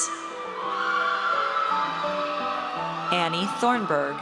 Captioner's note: audience cheers